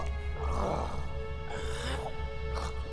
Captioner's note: gurgles